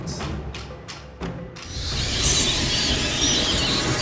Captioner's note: screeching